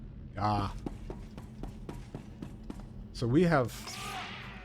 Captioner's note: gun fires